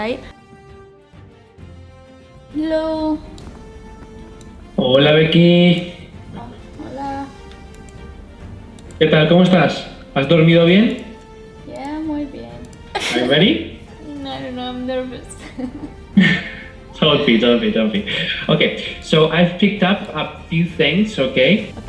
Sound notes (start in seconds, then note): 9.0 speaking Spanish; 15.5 chuckles; 16.3 laughs